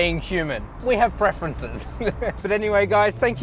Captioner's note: laughs